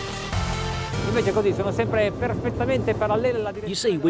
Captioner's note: electronic music; speaking foreign language